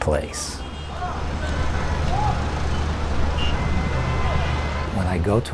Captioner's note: traffic noise